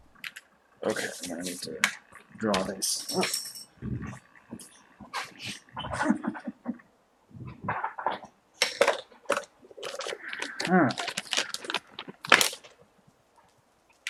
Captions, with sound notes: Okay, I'm gonna need to draw this. [clattering] Erp! [chuckles] All right.